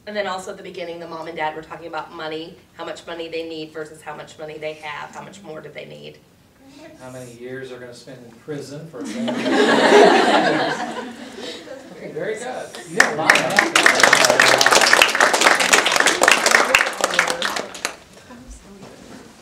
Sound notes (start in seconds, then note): 9.0 audience laughter; 12.9 audience applause